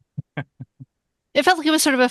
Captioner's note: laughs